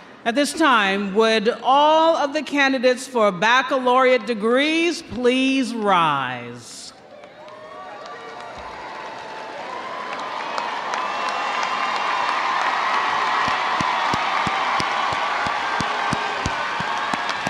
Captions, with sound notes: - At this time, would all of the candidates for baccalaureate degrees please rise. (audience cheering) (audience applauding)